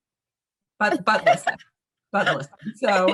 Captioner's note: laughing